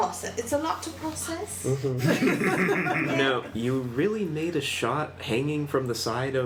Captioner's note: laughs